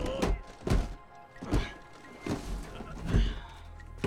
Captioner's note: grunting continues